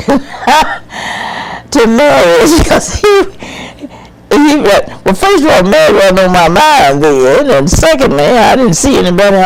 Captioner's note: laughing